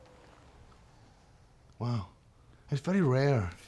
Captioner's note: scottish accent